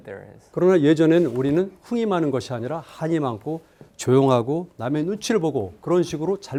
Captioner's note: speaking in Korean